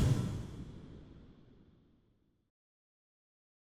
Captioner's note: whoosh